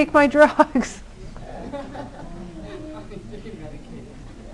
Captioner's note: laughter